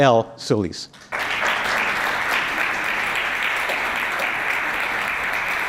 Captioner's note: audience applauds